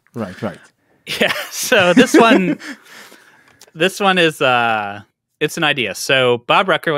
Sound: laughs

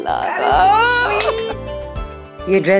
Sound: Vandy Laughs

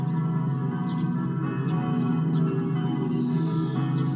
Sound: church bells

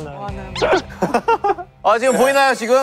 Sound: laughing

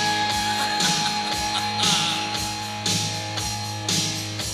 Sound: singer chuckling

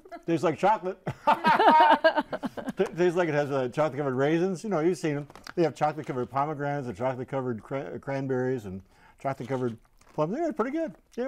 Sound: laughing

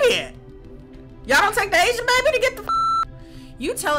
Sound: beep

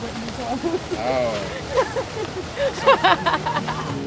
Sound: laughing

